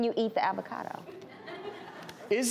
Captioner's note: audience laughs